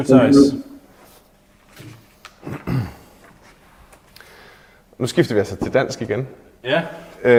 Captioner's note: switches to Danish